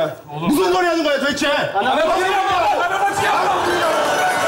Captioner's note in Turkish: Korece bağrışma